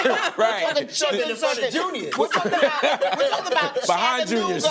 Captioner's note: laughter